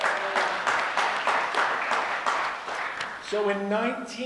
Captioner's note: audience applause